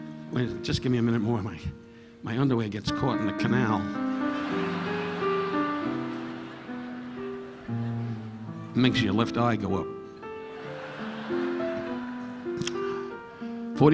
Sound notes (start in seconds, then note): 4.2 audience laughing; 10.3 audience laughing